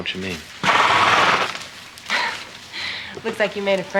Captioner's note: snort